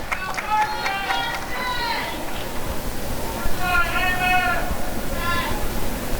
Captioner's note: applause and cheering